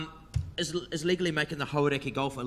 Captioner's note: speaks in foreign language